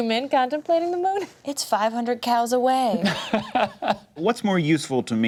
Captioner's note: laughs